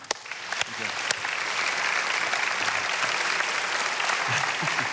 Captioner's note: congregation applauding